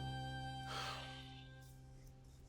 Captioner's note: sighs